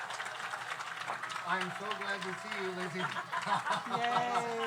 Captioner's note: audience applauds; audience cheers; laughs